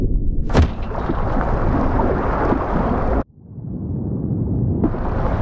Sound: water rushes

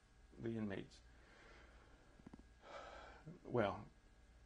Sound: sighs

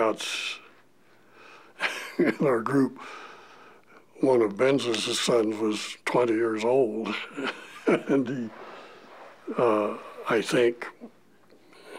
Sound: chuckle

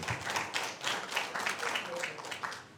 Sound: applause

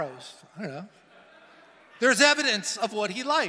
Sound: congregation laughing

